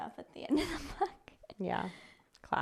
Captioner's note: laughs